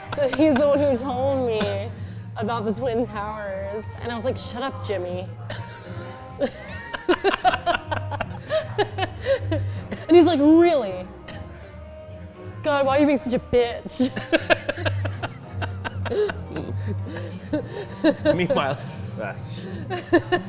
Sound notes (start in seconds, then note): 6.4 laughs; 13.9 laughs